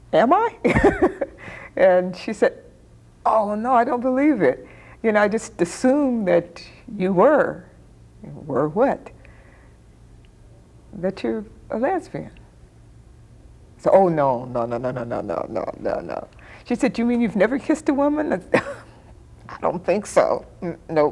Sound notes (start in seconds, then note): 0.7 chuckling